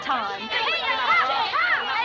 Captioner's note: women clamoring